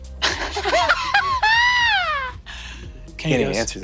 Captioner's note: Brennan cackles wildly